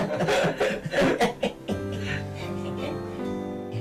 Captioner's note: empty laugh